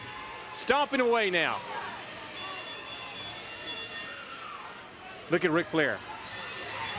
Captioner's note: bell ringing